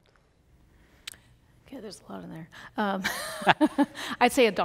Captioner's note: laughs